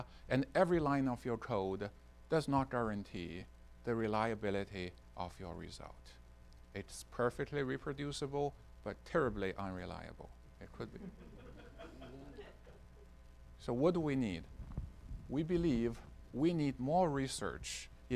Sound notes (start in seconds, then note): 10.9 audience chuckling